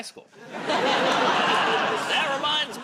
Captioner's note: laughter